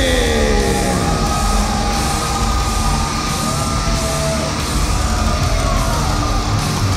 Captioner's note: audience cheers; driving rock music